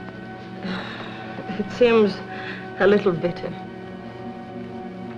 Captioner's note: sighs